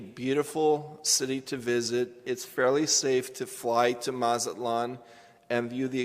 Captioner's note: none